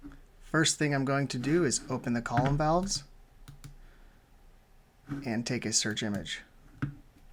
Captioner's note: click